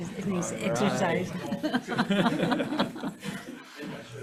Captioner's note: laughs